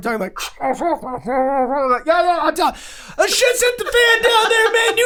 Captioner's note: murmuring